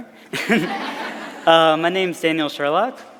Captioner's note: everyone laughing